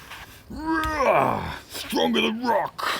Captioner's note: snap